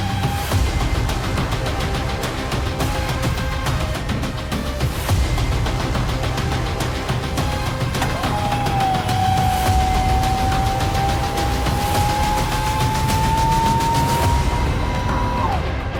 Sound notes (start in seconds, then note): 5.2 rousing soundtrack music continues; 8.0 doors whirring; 8.5 rousing electronic music